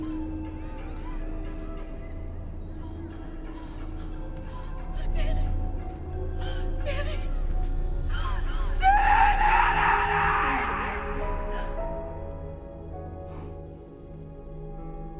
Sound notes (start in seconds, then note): 0.2 eerie music; 2.8 Bryn gasping; 11.8 mystical piano music